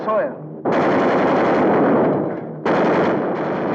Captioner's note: guns firing